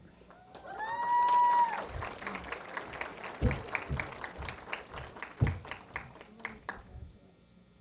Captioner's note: cheering & Applause